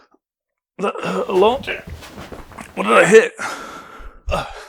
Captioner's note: groaning